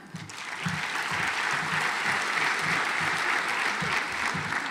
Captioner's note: audience applauds